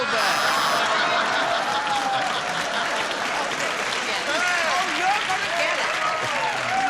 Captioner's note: laughter